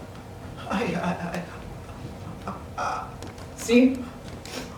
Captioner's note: Aaron stammers